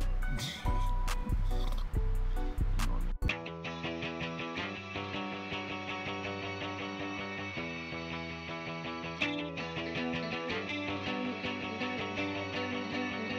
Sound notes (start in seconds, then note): 1.2 snorts; 3.0 instrumental music